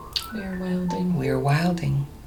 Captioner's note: voiceover